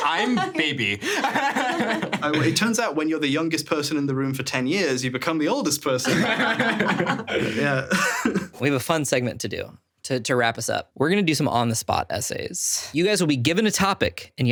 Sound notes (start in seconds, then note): 0.0 laughs; 0.1 laughing; 6.0 chuckles; 6.0 everyone laughing; 9.1 screen whooshing